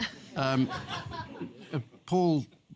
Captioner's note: laughter